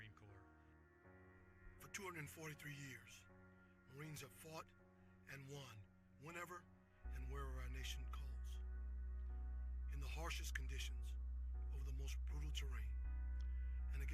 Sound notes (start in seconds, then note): none